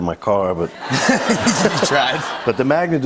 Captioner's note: laughter